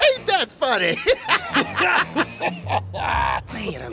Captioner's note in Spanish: Ambos ríen